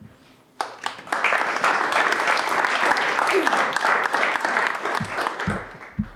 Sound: applause

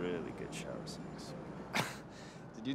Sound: chuckles

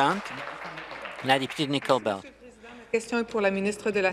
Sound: applause

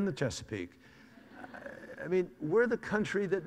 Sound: audience laughs

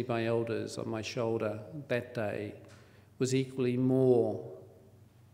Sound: foreign word spoken

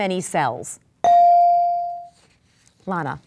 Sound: dinging

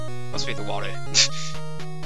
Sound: laff

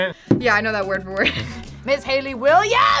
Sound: laughs

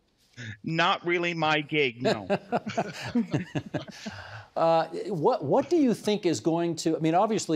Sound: laughter

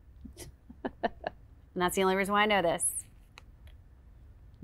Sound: chuckling

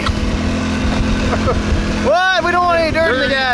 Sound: chuckling

